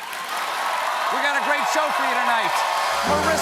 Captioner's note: cheers and applause